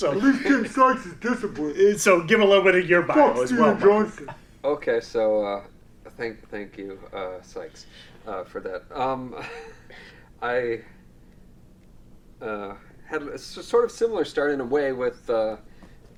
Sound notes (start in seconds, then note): 3.8 imitates voice; 9.5 laughs